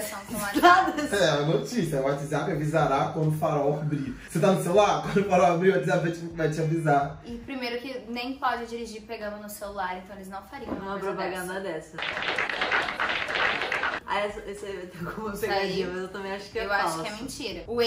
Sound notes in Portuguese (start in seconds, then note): 12.0 Aplausos